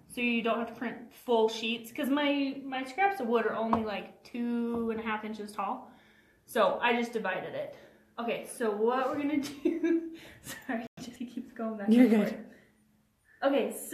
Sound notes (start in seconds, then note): 10.0 chuckles